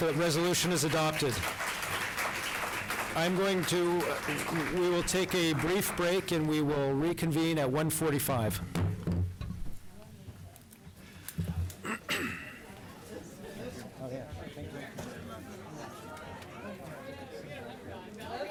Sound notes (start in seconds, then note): 0.0 applause